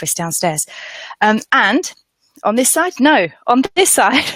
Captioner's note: laughs